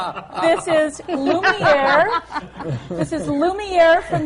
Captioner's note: laughter